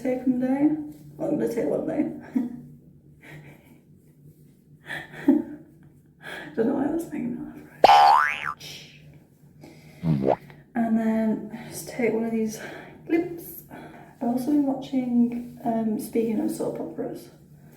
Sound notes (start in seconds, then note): 7.8 boing sound effect; 10.1 bowomp sound effect